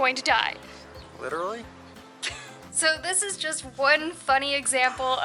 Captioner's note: laughter